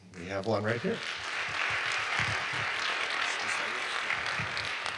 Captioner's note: audience applauds